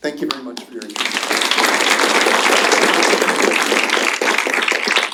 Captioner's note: applause